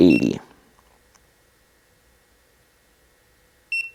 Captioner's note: button beeping